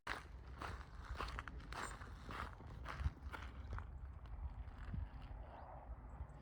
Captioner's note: footsteps and bird song